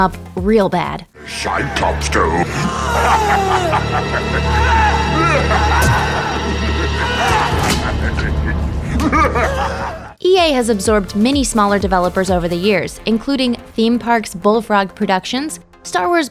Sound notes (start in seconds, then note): 1.3 laughing and screaming